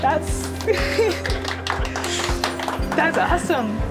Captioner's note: crowd applauding